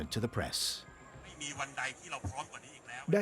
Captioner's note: speaking Thai